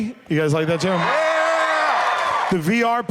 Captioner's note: cheers and applause